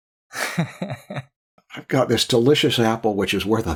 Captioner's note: laughter